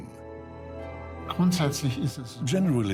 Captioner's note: in German; dubbed in English